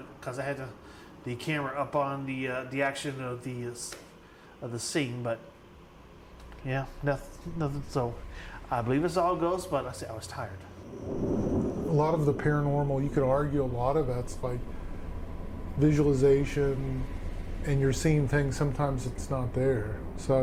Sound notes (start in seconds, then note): 10.8 thunder rumbling